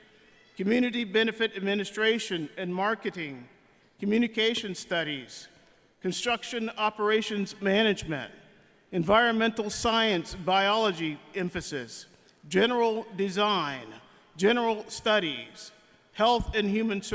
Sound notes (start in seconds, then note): none